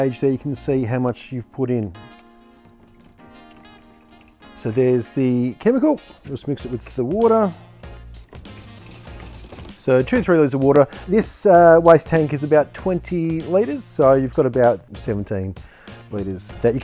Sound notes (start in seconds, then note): 2.9 jazzy music; 8.2 liquid pouring